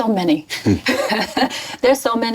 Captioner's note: laugher